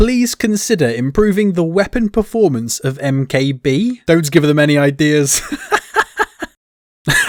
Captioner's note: laughing